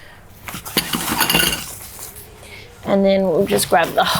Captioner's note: poles clanging